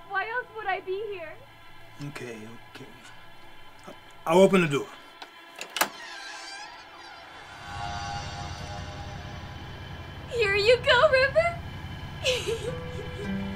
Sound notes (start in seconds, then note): 5.5 door creaks; 5.6 door clacks; 12.2 laughs; 13.3 tense music